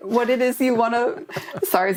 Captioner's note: laughter